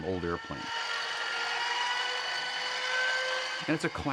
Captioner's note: whirring